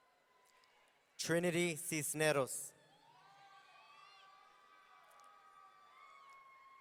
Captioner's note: audience cheering